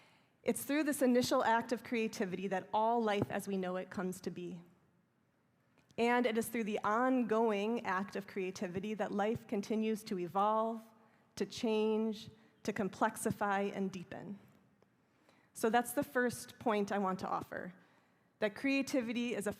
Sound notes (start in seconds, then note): none